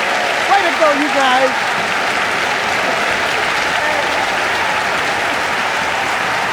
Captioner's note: audience cheering